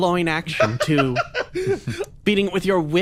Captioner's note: laugh